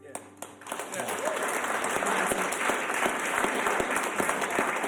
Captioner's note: audience applauds